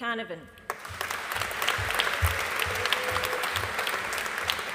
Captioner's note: audience applauding